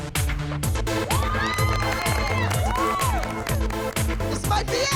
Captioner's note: cheering